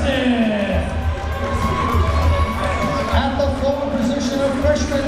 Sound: crowd members cheering

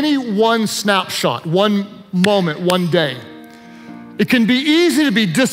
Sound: claps hands

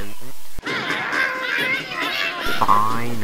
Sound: angered birds

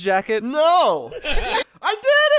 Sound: laughter

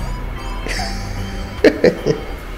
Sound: laughs

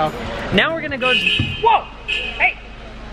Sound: horn beeping

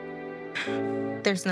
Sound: Crystal sighs

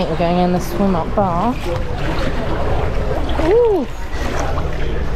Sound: water sloshing

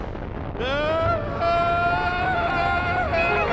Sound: screams

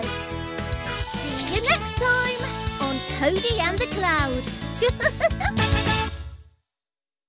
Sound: giggles

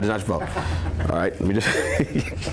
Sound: laughs

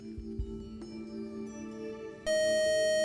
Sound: buzzer

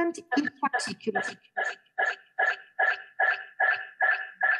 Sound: video speaker echoing

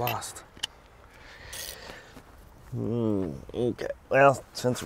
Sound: wrench cranks

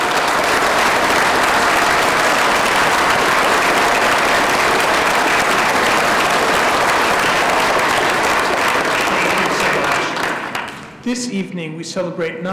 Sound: applause

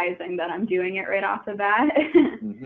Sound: chuckling

